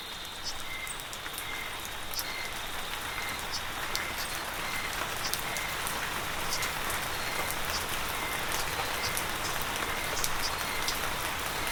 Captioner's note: applause